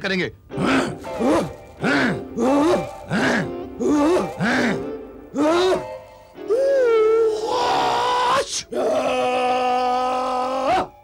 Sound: grunts

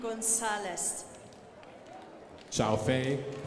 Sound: crowd applauding

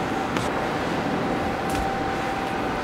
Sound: machine whirring

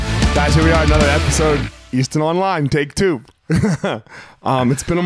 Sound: chuckles

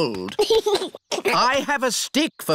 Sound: giggles

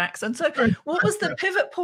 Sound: laughing

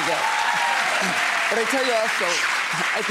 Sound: audience applauds

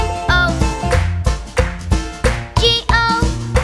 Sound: clap

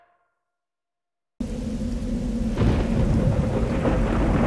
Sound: rain and thunder in the background

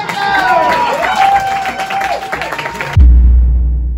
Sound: applause and cheers

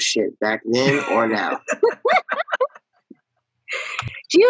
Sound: all laughing

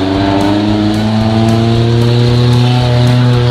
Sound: engine revving

